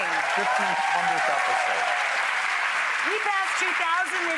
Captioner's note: audience cheers